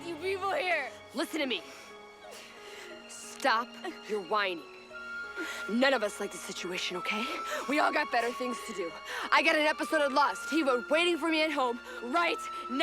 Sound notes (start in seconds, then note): none